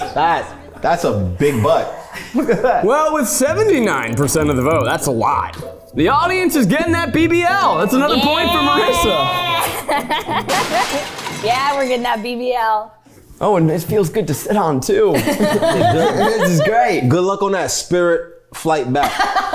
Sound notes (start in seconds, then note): 10.7 laughs; 15.2 everyone laughs